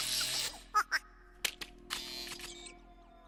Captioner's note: pat, pat